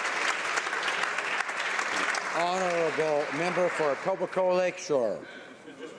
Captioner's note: applause